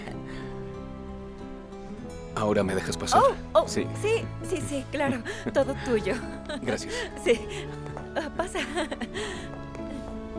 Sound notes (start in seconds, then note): 5.0 ríe